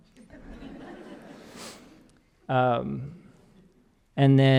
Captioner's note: audience laughing